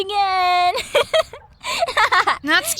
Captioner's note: snickering